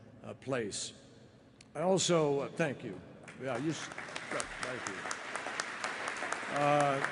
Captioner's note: applause